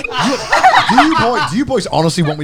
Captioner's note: both laughing